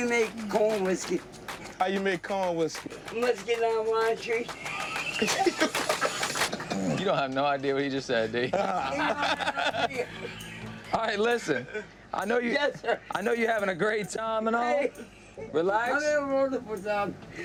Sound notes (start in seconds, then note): 4.0 laughs; 4.4 laughter